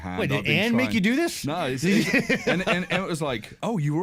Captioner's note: laughs